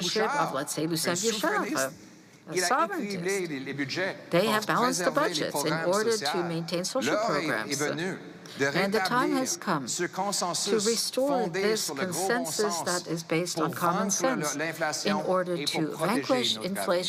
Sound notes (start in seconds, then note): 3.0 speaking French